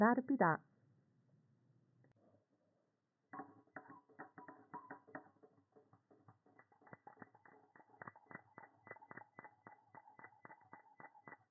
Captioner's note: noises: tea making